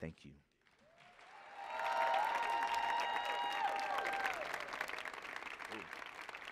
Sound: audience cheering and applauding

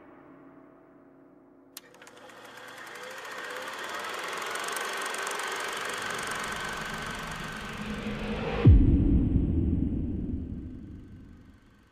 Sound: film projector sound

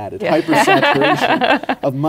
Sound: laughs

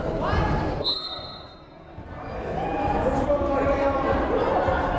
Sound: whistle blows

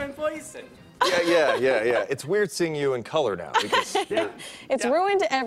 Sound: laughter

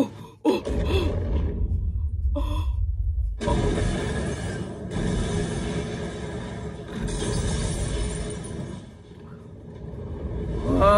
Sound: explodes, shatering

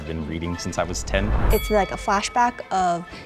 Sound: bell dings

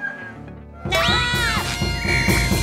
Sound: screaming

